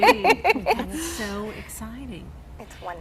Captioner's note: all laugh